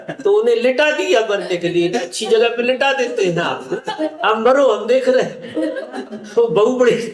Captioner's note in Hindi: हंसी